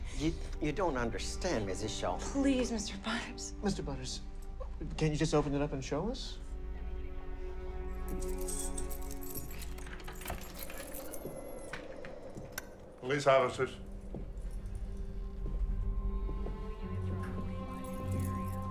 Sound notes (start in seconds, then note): 8.0 keys jangling; 8.4 suspenseful music; 10.5 door latch clicks; 12.5 light switch clicks; 15.2 suspenseful music; 17.7 keys jangling